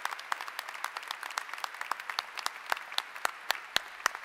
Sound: applause

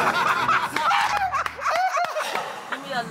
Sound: laughter

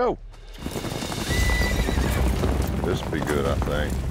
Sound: horse whinnies

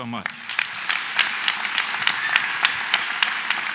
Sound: applause

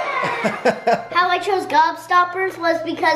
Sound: laughing

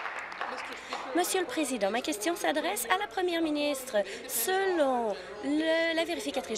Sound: applause

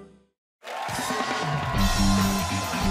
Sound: cheers and applause

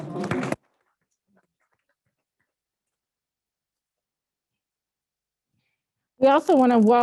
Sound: applause

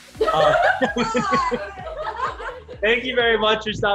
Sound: laughs

